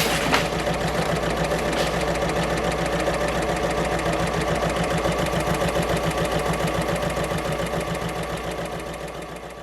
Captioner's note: sewing Machine Sounds